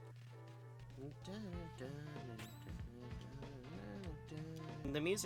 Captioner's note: humming battle song